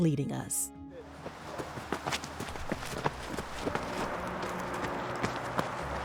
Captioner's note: feet landing softly